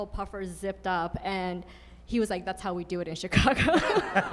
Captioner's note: laughs; audience laughing